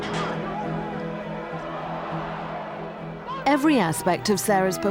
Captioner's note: crowd cheering